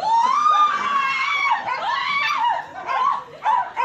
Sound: screaming

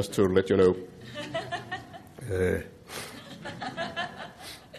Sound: audience laughing

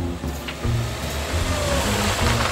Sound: car approaching

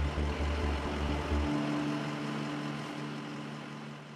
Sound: engine puttering

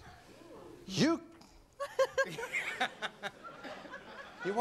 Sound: audience laughing

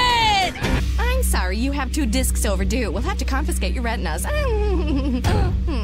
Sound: giggling

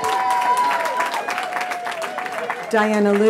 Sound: cheering

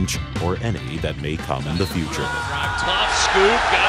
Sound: crowd roaring

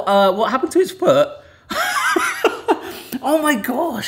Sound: chuckling

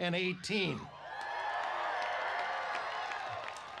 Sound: applause

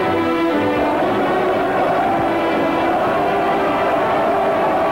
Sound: crowd cheering

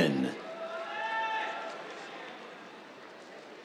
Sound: cheers

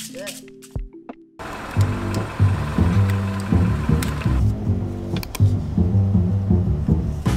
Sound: quirky music; engine humming

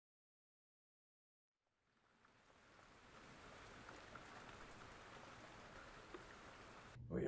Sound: rain falls

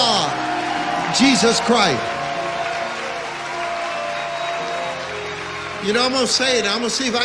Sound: audience cheers and applauds; audience cheers and applauds

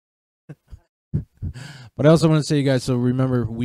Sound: innocent Laughs

